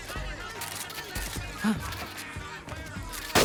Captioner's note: gasps; gunshot